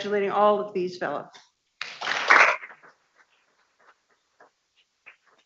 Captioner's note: people clapping